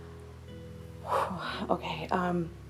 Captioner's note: exhales